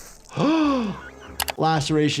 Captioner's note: doctor gasps